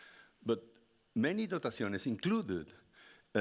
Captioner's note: speaking Spanish